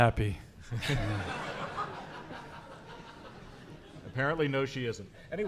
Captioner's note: audience laughing